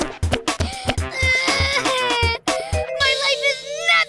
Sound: angry bawling

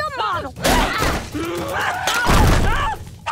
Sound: screaming

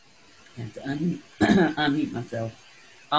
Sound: coughs

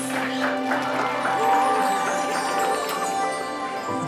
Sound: clapping, cheering

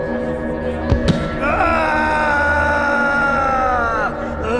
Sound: brush cracking; man groaning

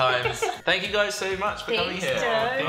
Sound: laughter

